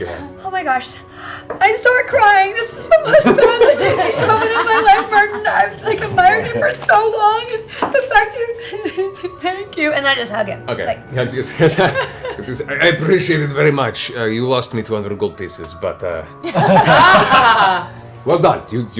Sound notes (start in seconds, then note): 8.0 cries